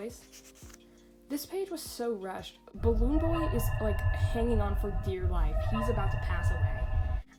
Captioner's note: FNAF 2 ambient noise